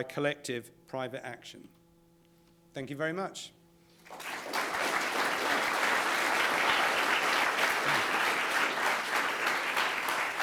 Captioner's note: applause